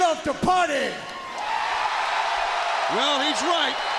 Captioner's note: crowd cheers